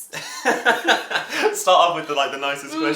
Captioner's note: laughter